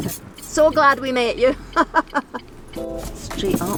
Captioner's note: laughs